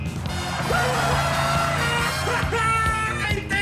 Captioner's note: screaming